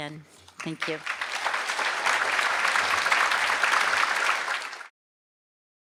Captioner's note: applause